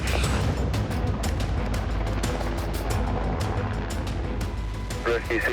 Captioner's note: helicopter blades whirring